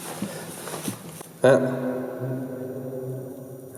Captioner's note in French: echo